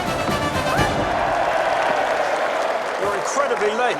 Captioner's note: applause